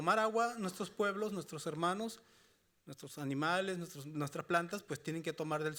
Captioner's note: speaking Spanish continues